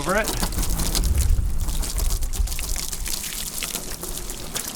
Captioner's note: water splashing